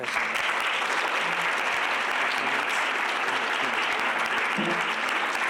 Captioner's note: applause